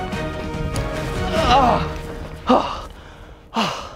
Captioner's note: manly grunts. You shut your mouth